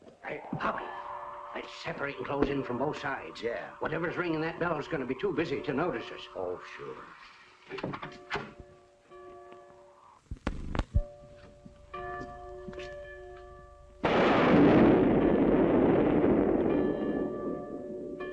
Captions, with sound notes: Hey! Let's separate and close in from both sides. Whatever is ringing that bell will be too busy to notice us. Oh, sure. [ BELL CLANGING ] [ LOUD THUNDERCLAP ]